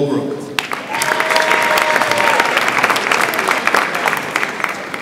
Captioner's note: audience applauds